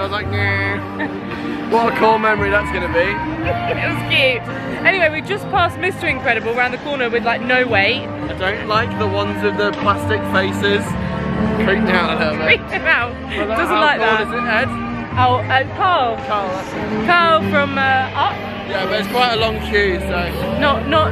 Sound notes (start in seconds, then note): 3.4 giggling